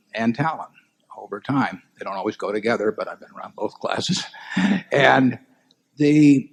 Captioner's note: laughs